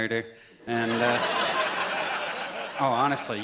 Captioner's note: audience laughs